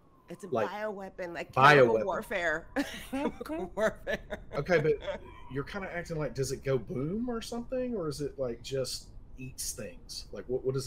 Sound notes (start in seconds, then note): 4.0 game Master laughs